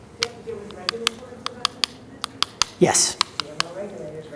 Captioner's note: voice muffled; voice muffled